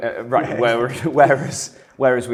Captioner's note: men laughing